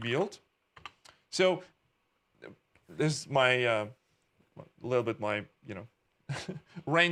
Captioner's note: chuckling